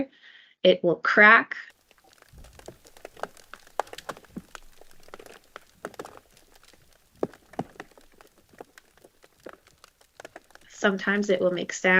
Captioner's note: cracking sound effects of ice underwater